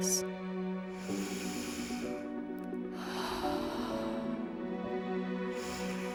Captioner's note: breathing